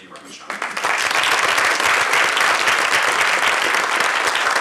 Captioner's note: applause